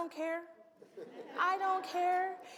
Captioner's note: audience laughs